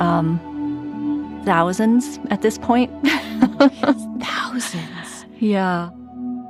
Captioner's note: laughs